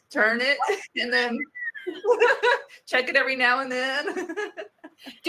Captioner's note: laughs